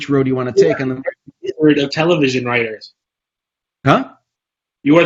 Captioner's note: Jose's mic warbles